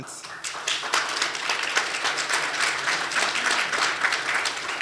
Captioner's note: audience applauding